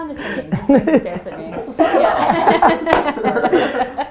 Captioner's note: laughter